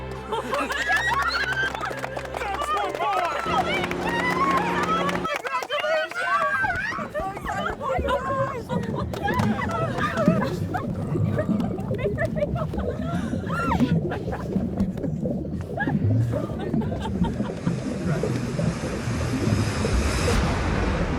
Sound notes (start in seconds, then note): 0.0 romantic music; 0.2 friends cheer and clap; 4.4 friends cheer and clap; 8.8 water bubbles; 17.8 waves splash